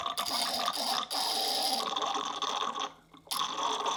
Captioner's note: gargly weird noises